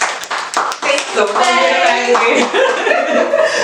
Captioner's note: claps